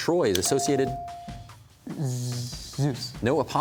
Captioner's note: haltingly